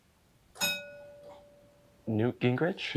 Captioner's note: bell dinging